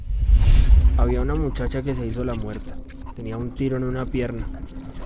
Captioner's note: man speaking Spanish